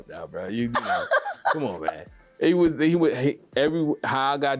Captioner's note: laughing